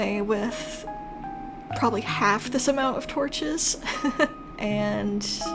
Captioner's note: laugh